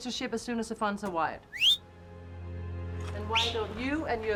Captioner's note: whistles